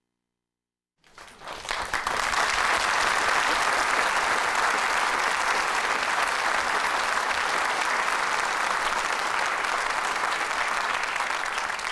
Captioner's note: applause